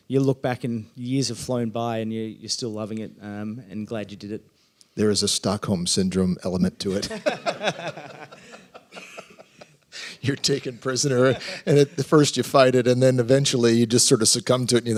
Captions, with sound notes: Like, you'll look back and years have flown by, and you're still loving it and glad you did it. There is a Stockholm syndrome element to it. [LAUGHTER] You're taken prisoner. And at first, you fight it, and then eventually you just sort of succumb to it